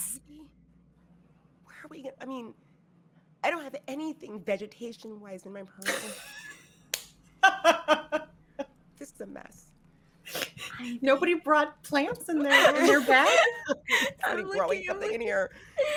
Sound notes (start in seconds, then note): 6.0 palms slapping; 7.4 laughing; 15.7 all three laughing